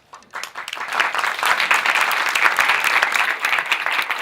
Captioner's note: applauds